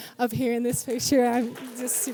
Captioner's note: audience cheers